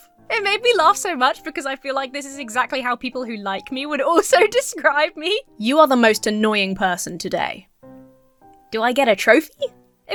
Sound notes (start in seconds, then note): 4.9 laughs